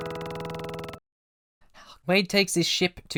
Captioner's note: outro music; gross inhale sound?